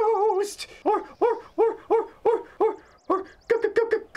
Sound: stuttering

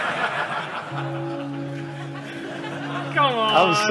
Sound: laughter; bell ringing

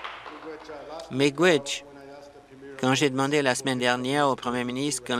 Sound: applause

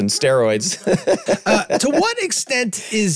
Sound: group laughing

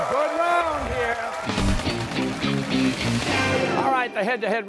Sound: cheers and applause

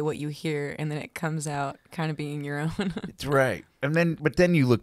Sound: laughs

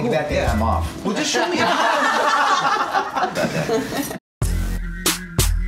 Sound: laughing; hip hop music

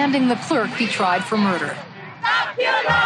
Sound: crowd

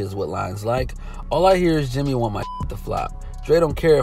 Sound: beep

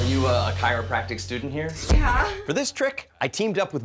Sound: chuckles

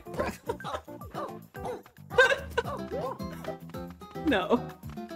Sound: laughs

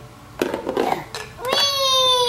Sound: clattering

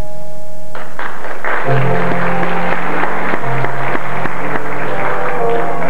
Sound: applause

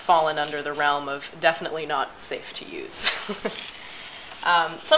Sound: laughter

